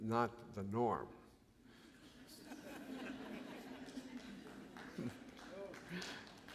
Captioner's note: laughter